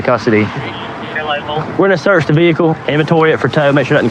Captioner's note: radioadio chahatttter